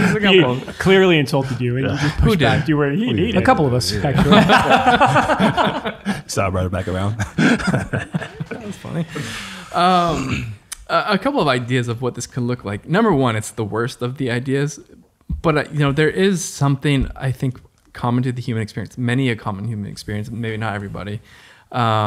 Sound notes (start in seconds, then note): 6.7 laughing